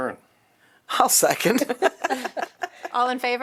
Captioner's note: laughter